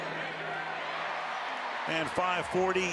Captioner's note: cheering